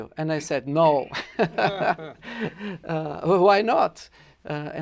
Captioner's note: laughter